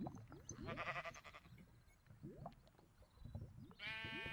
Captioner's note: lava bubbling and sheep baaing